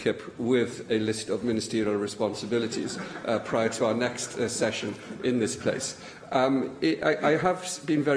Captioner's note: laughter